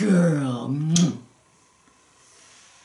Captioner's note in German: smooch